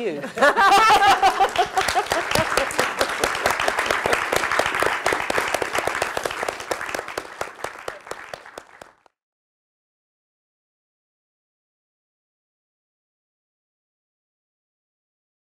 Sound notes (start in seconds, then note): 0.1 laugh; 6.1 applause